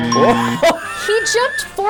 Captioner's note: laughing